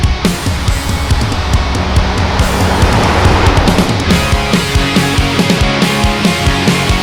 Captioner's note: truck engine rumbles